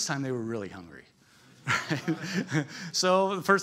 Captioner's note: laughter